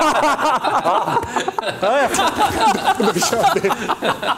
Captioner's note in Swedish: laughs